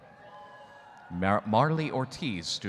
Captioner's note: audience cheering